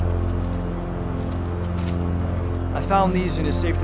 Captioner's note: plastic rustles